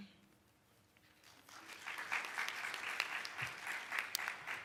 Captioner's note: applauding